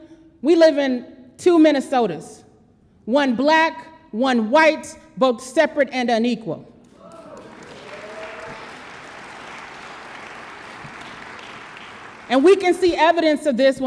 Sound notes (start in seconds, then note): 7.0 audience applause